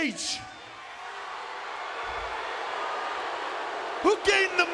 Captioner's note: audience booing